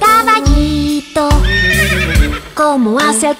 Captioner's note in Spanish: Sonido de relincho